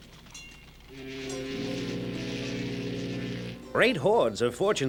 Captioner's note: horn blaring